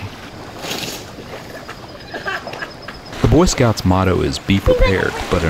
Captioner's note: tent ripping, laughter